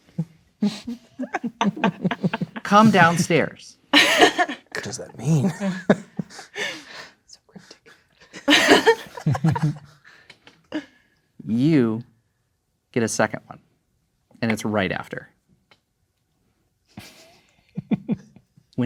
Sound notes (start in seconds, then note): 0.6 players laughing; 7.0 whispering indistinctly; 8.2 players laughing; 17.7 chuckling